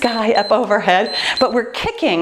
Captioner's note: timer beeps